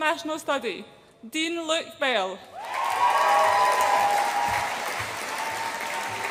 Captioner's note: audience applauds and cheers